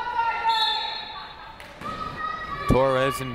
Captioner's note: whistle